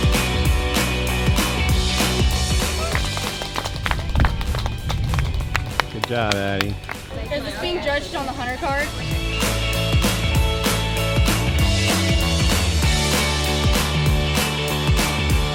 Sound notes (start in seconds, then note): 2.0 audience applauding; 9.3 upbeat music